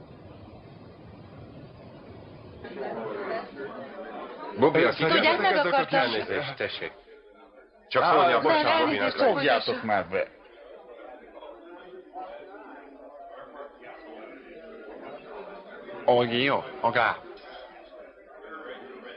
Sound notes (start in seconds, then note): 14.9 speaking chinese